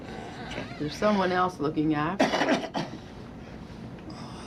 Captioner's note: coughs, Gasps